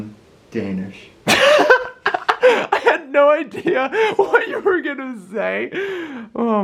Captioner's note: lols